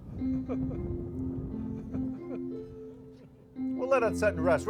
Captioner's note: gentle keyboard music; laughs